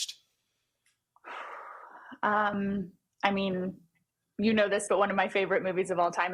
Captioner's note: sighs